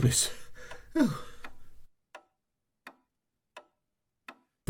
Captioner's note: ticking clock